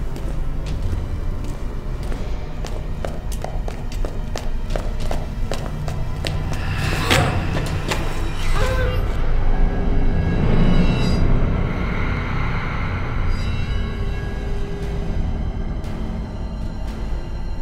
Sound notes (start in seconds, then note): 3.1 footsteps echoing; 8.1 grunting; 14.2 dramatic music